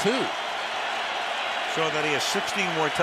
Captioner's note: cheering